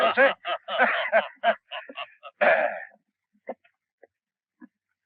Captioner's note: both chuckling